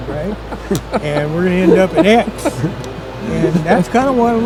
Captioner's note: people laughing